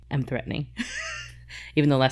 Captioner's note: laughs